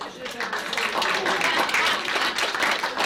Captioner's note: applause